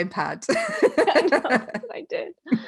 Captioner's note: laughing